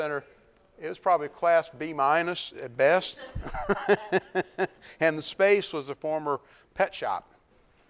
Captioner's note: laughs